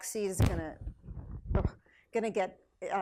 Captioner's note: microphone crackles